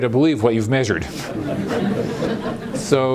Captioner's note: laughter